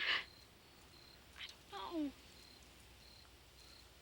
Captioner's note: crying